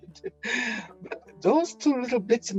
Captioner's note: laughing